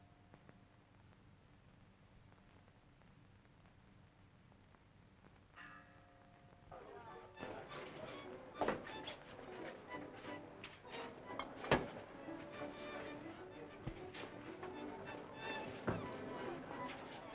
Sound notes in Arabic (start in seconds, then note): 6.7 الناس يتحادثون; 7.0 موسيقى مبهجة